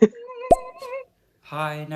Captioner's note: humming